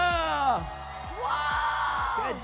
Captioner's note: applauding